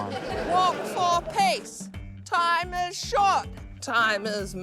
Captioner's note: laughter